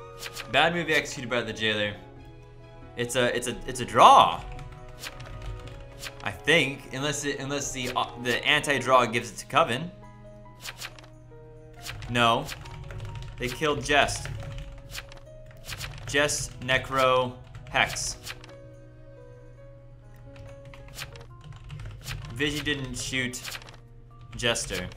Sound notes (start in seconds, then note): 14.0 typing